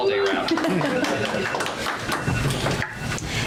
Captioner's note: audience applause